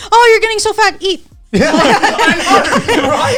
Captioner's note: all laughing